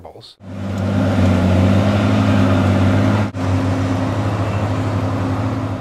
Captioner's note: sound of a tractor